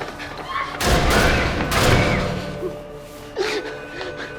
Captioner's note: gunshots